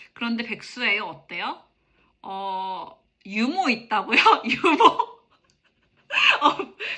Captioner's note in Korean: 웃음